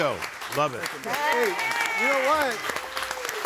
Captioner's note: audience applauding